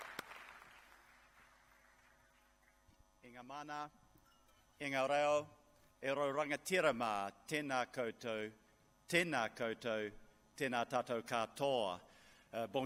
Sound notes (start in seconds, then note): 3.6 speaking in a foreign language